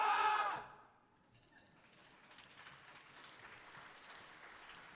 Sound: audience applauding

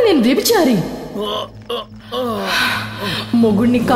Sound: groans

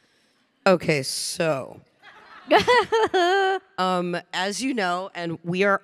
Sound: chuckles

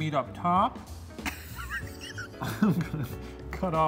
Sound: laughing

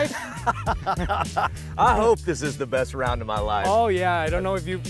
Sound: laughs

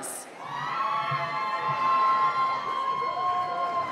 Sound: cheering

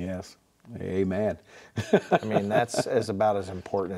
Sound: laughing

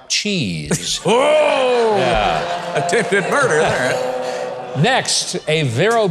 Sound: crowd laughing

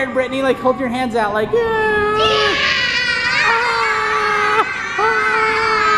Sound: and kids screaming

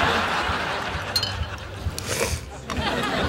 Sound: slurping

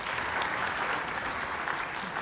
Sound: applause

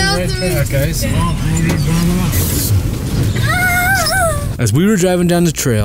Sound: child playful screams

